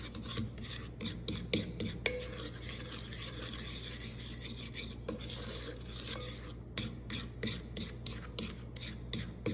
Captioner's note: stirring sounds